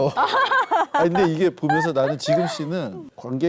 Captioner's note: laughing